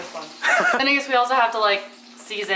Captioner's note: laughs